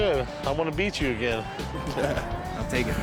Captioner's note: laughter